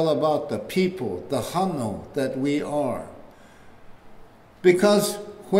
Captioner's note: foreign language